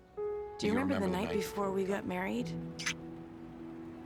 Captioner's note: lips smacking